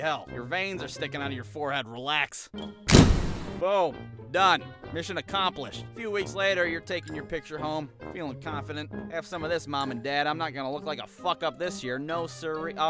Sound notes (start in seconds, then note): 2.9 camera shutter clicks